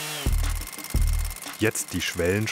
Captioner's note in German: Schnelles Klackern